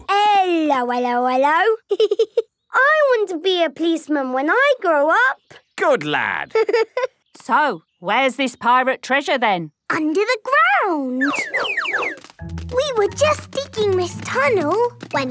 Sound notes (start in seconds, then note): 6.5 giggling